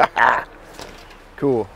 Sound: chuckles

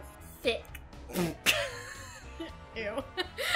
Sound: both laugh

